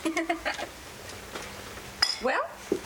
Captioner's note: Lavinia laughs